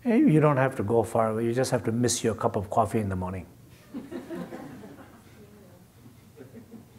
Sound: laughter

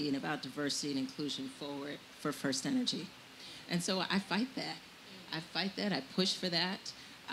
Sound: none

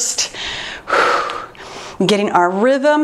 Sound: exhales

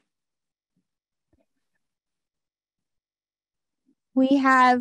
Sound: silence

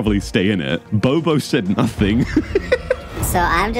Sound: laughs

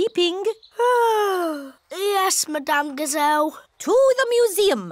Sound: yawns

